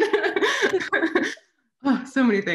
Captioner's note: both laugh